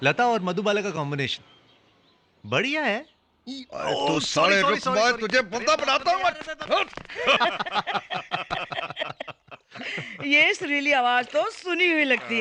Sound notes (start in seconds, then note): 6.1 all Laughing